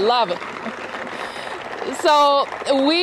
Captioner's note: applause